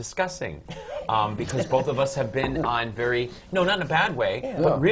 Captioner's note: laughter